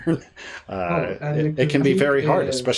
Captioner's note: chuckles